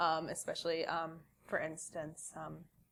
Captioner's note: none